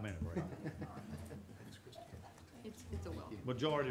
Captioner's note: audience laughing